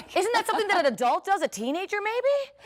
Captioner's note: laughter